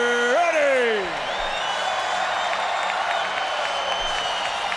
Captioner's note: fans cheering